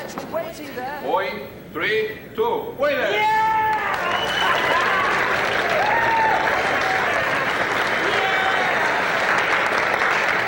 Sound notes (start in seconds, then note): 3.6 crowd applauds